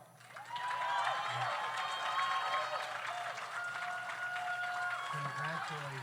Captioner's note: audience applauds; audience cheers